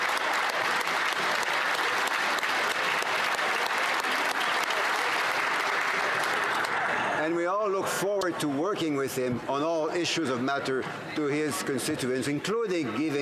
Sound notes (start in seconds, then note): 3.3 applause